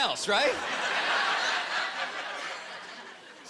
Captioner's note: laughter